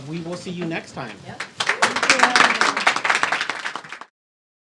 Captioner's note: clapping